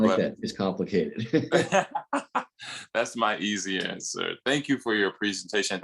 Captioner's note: laughter